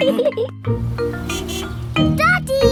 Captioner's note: horn honks